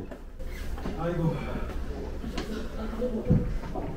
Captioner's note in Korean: 한숨